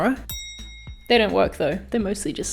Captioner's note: bell ringing